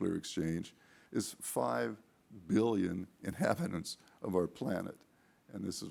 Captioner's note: chuckling